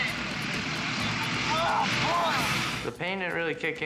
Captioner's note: screaming; dramatic music; screaming